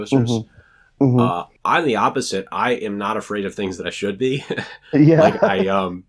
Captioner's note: laughs